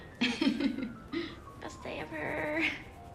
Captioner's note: laughing